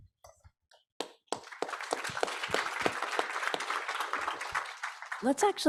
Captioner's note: audience applauds